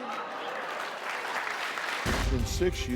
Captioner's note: applause